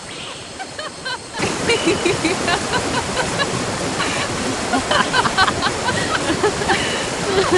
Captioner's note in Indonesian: Suara wanita tertawa riang